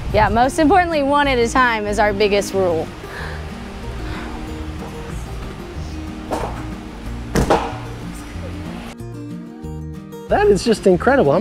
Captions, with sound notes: Yeah, most importantly, one at a time is our biggest rule. (trampoline clacks) (feet thud) - That is just incredible.